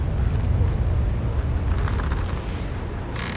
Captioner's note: ropes creaking